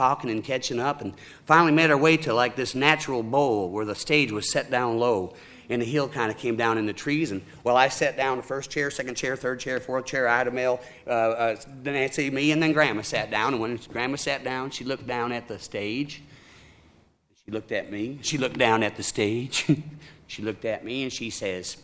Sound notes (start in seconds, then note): none